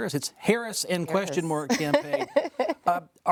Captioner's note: laughs